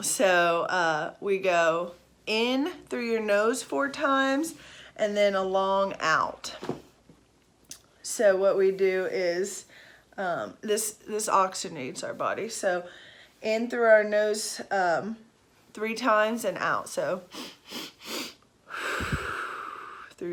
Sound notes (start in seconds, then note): 18.6 exhaling; 18.6 inhaling